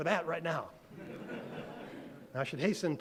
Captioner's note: audience laughed